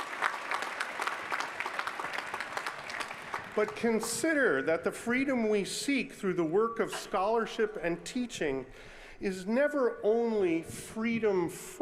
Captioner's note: applause